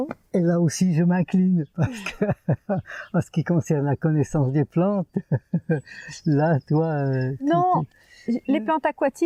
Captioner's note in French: rires